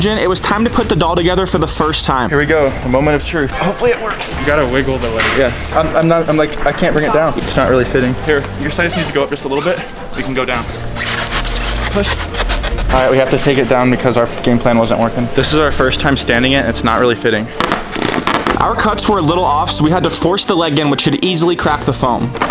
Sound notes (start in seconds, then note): 10.1 foam squeaking; 17.8 foam squeaking